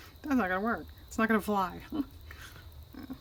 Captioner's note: laughs